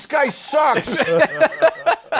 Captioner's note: laughter